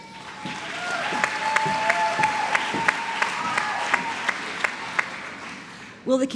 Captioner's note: applause